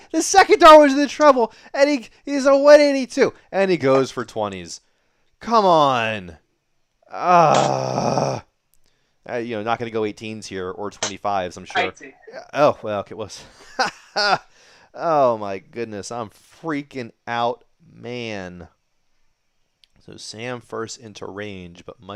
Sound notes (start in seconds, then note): 7.1 groans; 14.0 laughs